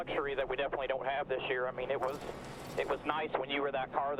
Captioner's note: radio